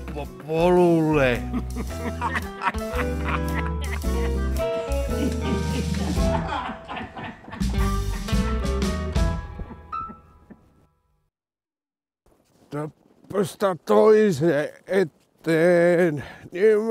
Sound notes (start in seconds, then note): 1.2 Herman and Johan laugh; 10.5 the music ends